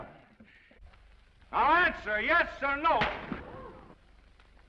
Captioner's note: hand slaps; audience gasps